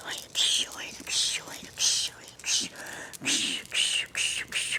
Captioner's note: whispering in Quechua